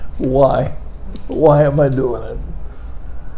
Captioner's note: pen clicking